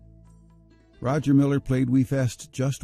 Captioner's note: voiceover